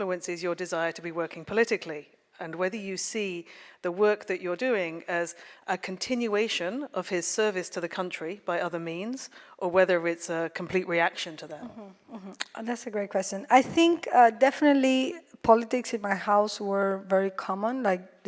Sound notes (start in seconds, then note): none